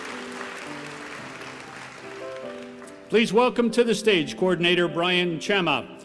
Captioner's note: applause